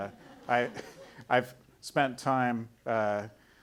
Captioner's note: audience laughing